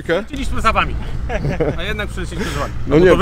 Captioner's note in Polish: śmiech